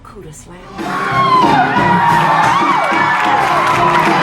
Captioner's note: audience cheering; clapping; intense music